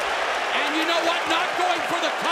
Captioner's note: cheers and applause